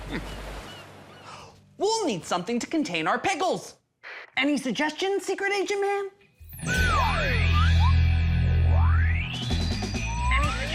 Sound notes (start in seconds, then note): 0.0 chuckles; 5.4 whispering